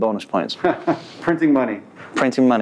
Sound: laughs

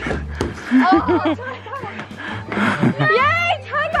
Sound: laughing

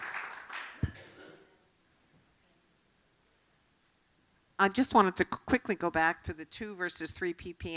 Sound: applause

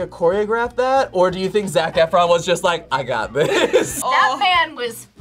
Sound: laughs

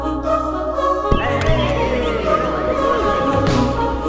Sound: cheered greetings

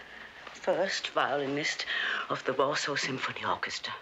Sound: breathing anxiously

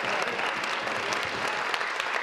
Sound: applause

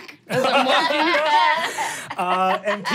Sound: laughing

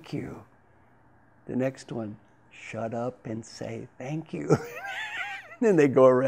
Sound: laugh

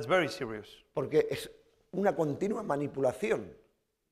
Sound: speaking spanish

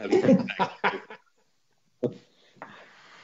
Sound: laughs

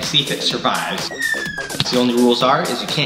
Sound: whistling

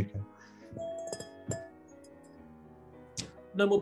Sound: taps glass

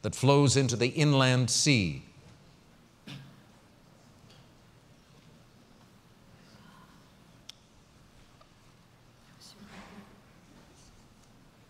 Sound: pause

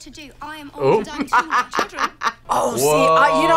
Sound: laughs

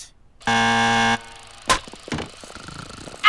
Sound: clapper claps; snoring

